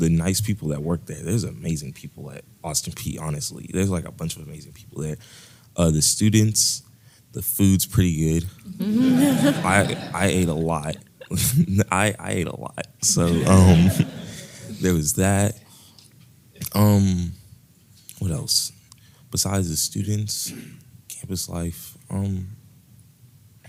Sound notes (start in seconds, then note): 8.7 laugh; 13.1 laugh